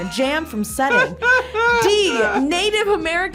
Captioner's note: both laugh